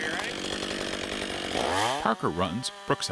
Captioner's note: power saw revving